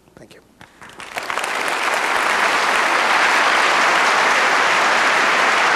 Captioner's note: applause